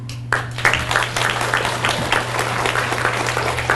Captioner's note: audience applauds